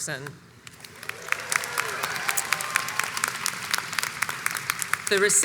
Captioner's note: crowd cheers and applauds